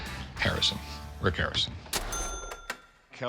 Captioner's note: imitating James Bond